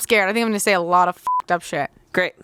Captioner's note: beep